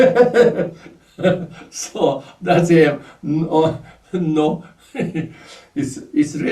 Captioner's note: laughs